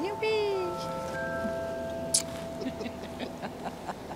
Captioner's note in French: rires